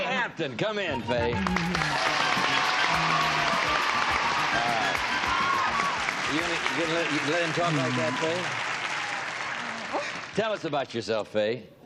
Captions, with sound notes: -All right. Faye Hampton, come in, Faye. (applause) All right. You're going to let him talk like that Fay?